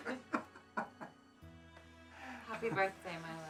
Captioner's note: laughs